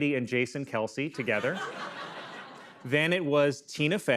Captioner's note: laughter